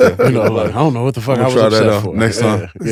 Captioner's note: speaks faintly